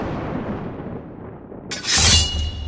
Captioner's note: thunderclap